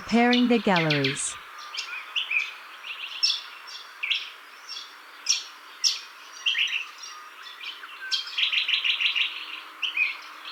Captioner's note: birds chirping